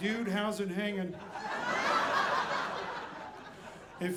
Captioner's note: audience laughing